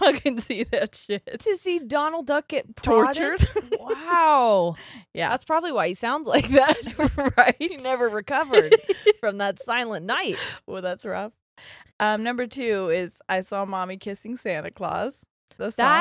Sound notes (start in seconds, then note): 3.0 laughing; 9.4 laughing